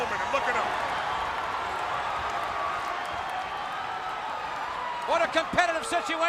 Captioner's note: crowd cheering